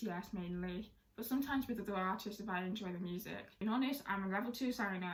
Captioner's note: Korean